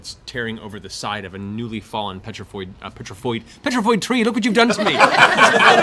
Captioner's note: mocking Chris' accent